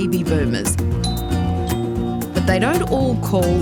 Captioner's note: door bell rings